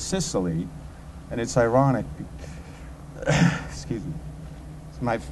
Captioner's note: coughing